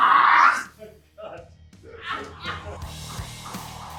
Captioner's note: laughing